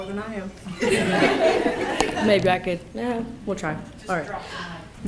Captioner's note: people clapping